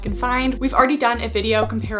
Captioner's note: graphics beeping